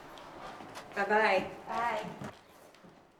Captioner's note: voiceover